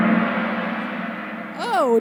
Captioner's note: gong sound